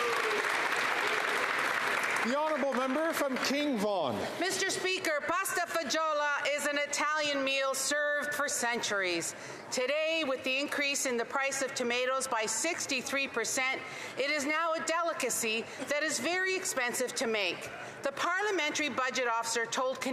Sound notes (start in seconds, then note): 3.7 some Applause